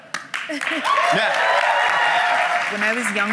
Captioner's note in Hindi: जय-जयकार